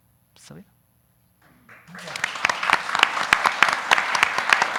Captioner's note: audience applauding